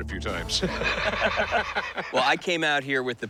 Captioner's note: laughter